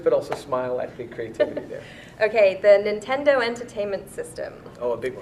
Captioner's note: laughs